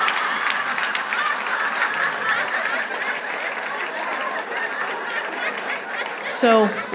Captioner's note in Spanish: Aplausos